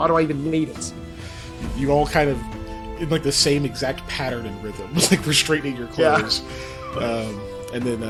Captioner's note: laugh